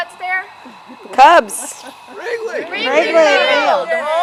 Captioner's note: audience shouts "Cubs"!